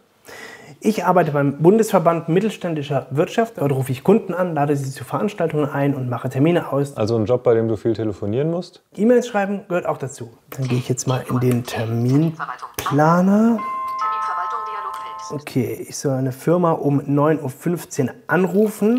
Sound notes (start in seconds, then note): 12.8 bell chimes, computer voice